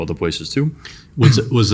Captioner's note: clears throat